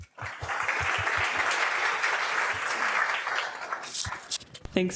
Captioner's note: audience applauding